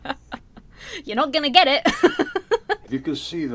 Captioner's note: both laugh; laughs